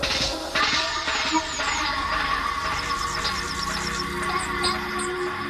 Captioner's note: birds singing; reggae music